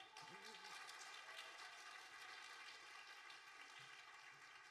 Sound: audience applauding

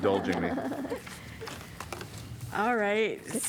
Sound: laughter

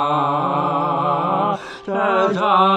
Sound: collective gasp

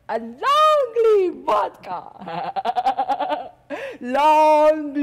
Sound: loudly chuckling

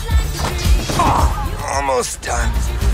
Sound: grunts

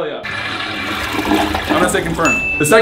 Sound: toilet flushes

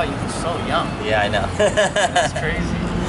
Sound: laughs

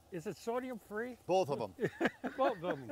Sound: laughing

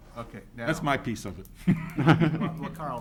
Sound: laughing

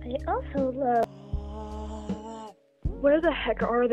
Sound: pathetic stupid scream from bc he's a wimp

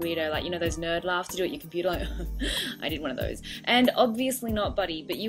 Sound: snickers

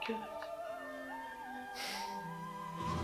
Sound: sighs

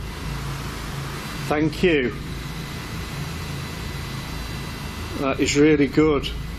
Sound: machine buzzing

